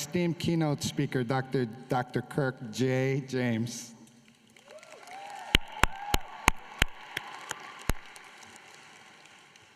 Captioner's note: applause